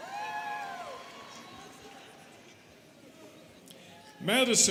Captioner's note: students cheering